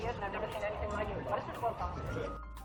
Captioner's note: voice on radio